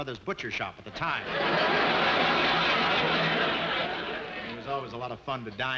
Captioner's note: audience laughing